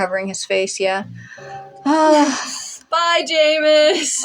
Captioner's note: deep Sigh; snicker